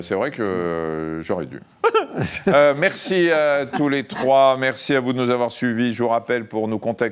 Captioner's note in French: rires